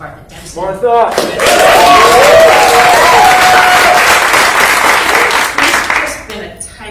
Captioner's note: cheers and applause